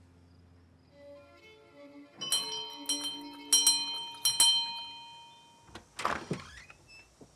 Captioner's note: lively violin music; bell ringing